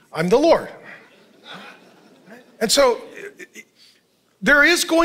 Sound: congregation laughing

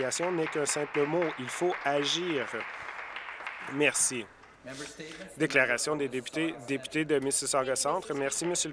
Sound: applause

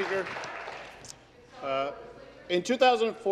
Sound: applause

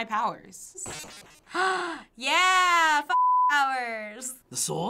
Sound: gasping

